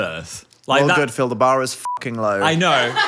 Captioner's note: beep